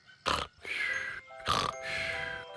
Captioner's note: snoring and whistling